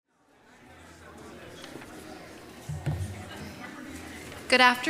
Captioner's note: audience chattering